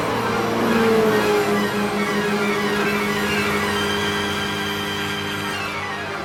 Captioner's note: engines revving; dramatic music